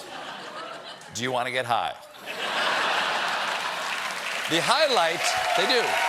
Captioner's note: laughter; applause